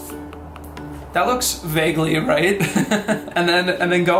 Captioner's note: laughs